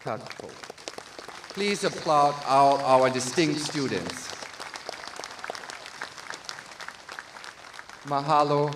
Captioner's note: applause